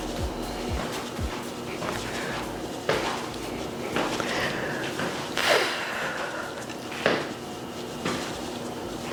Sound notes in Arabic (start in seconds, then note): 3.4 يتنفس بصعوبة